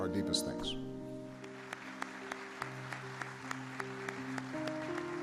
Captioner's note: audience applauding